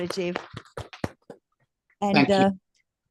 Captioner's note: applause